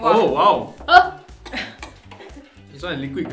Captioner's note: choking